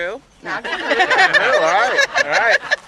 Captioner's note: laughter